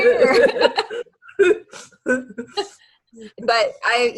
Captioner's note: laughter